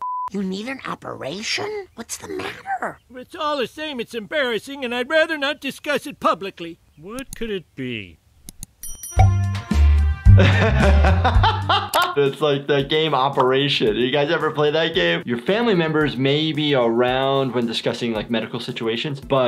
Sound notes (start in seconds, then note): 9.1 upbeat music; 10.3 laughing